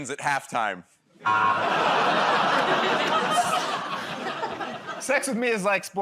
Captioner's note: laughter, buzzer